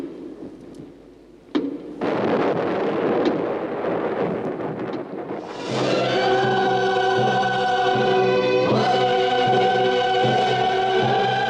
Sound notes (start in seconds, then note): 1.9 thunderstorm; 5.4 loud Music